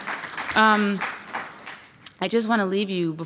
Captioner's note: audience applauds